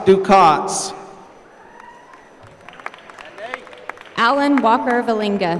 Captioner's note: applause